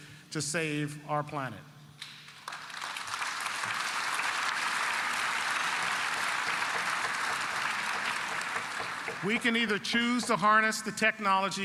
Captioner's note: applause